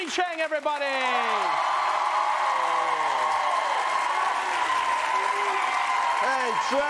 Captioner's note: cheering